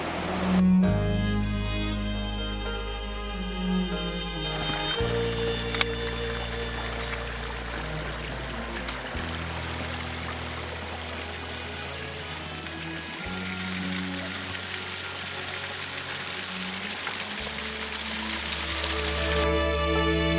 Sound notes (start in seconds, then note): 0.0 sound of distant flowing water; 0.2 quiet music continued; 5.0 sound of running water; 19.0 quiet music continued